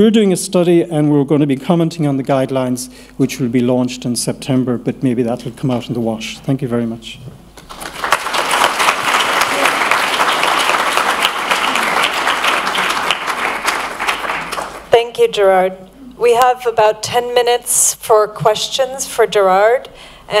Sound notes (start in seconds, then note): 7.6 applause